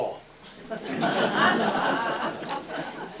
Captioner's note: laughter